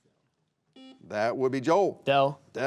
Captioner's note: buzzer beeping